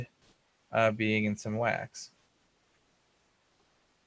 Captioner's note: voice muffled